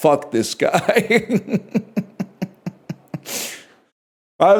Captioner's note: laughs